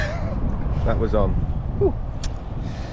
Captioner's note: laughs